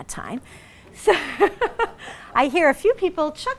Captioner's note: laughs